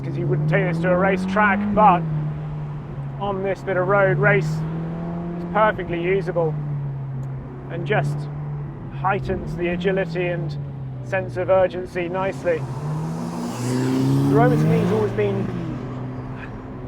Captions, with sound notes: 'cause you wouldn't take this to a race track. But on this bit of road, Race is perfectly usable and just heightens the agility and sense of urgency nicely. (car engine revving) The Roma to me has always been,